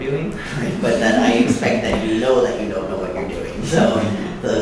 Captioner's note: laughing